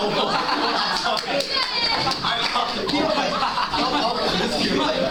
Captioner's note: laughter and Derisive Cheering